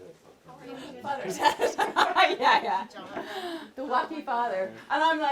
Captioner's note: laughs